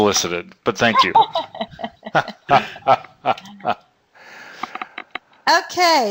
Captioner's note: laughter